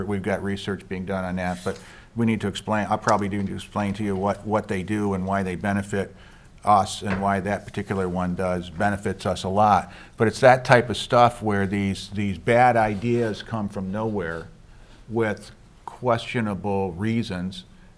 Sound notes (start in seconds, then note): none